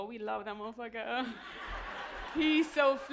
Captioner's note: laughter